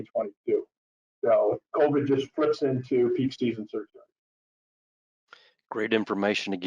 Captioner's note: speaks faintly